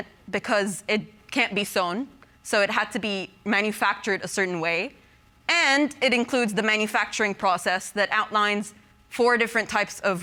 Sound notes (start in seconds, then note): none